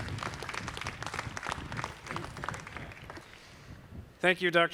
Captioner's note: audience clapping